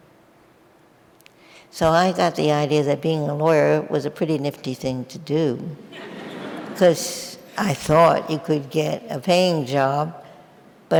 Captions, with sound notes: So I got the idea that being a lawyer was a pretty nifty thing to do. (audience laughing) 'Cause I thought it could get a paying job,